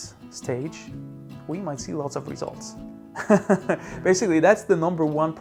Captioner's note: laughs